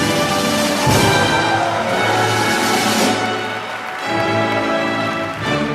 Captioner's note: applause